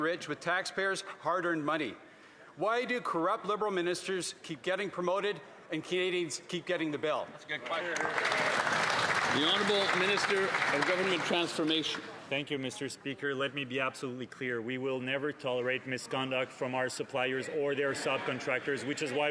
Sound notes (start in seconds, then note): 12.9 some Applause